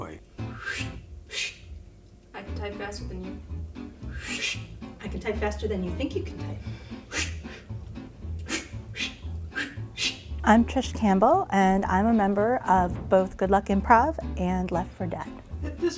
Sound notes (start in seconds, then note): 9.9 whooshing noises